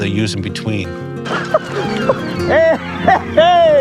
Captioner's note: laughs